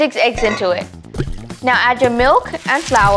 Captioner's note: bowls clang